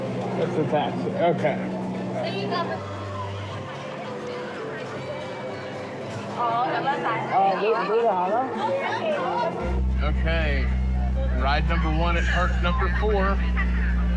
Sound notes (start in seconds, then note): none